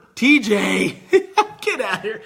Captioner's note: laughing